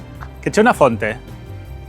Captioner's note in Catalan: en italià